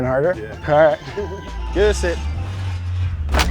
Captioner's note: laughing